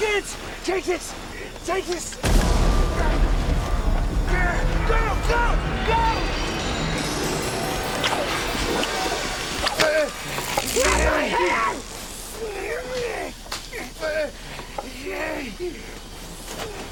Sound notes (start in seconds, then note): 2.2 booming; 7.3 eerie dramatic music; 9.7 groaning; 10.6 zinging; 13.4 groaning